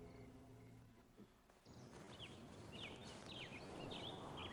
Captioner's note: birds chirping